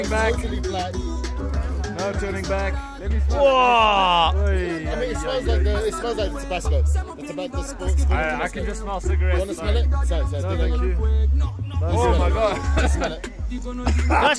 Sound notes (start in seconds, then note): 3.2 group making sounds of disbelief; 13.8 smalls the chip and coughs violently